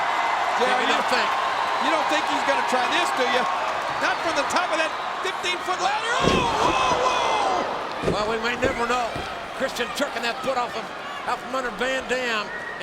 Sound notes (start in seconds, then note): 0.1 crowd cheering; 6.1 mat thumping